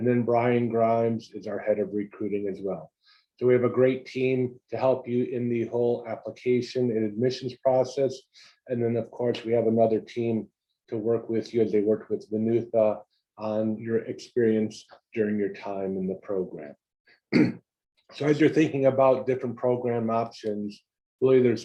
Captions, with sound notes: And then Brian Grimes is our head of recruiting as well. So we have a great team to help you in the whole application and admissions process. And then, of course, we have another team to work with you and they work with the new thoughts on your experience during your time in the program [COUGH]. So as you're thinking about different program options really there's